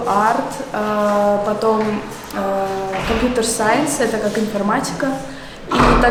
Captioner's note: Russian